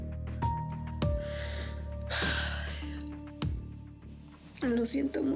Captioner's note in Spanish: exhala